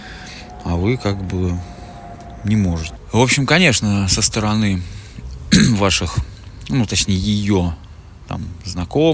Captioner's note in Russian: откашливается